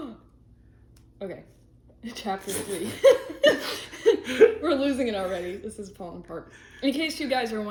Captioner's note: laughs